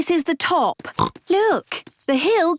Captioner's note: snorts